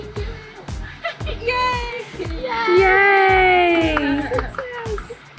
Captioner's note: crowd